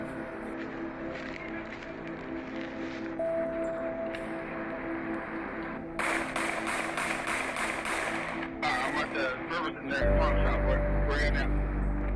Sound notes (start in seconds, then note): 6.0 multiple gun shots fire; 9.3 muffled voices on a radio